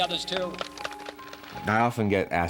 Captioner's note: suspenseful music; crowd clapping